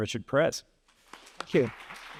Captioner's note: applause